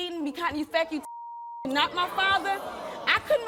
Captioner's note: beep